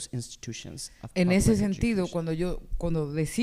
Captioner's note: speaking spanish